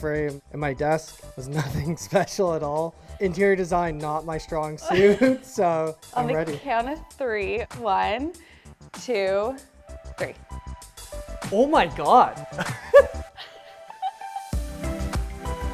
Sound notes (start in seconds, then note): 12.6 laughs